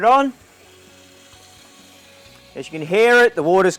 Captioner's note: water running